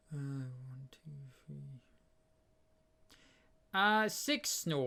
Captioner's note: counting up quietly